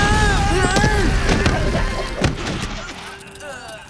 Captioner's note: rocket whistles; explosion; grunting and moaning